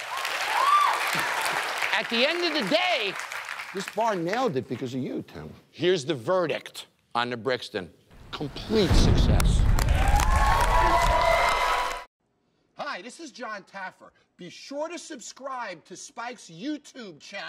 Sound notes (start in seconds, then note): 9.3 applause and cheering